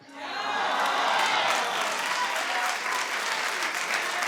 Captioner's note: audience cheering